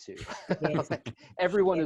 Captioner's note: laughter